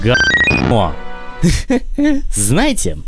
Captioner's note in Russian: смешок